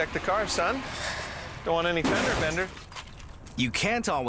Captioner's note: SFX: crash